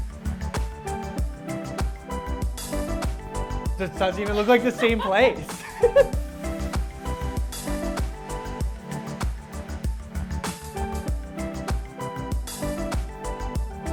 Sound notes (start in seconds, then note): 1.4 upbeat music continues; 4.2 laughing